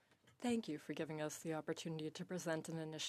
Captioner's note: speaking in French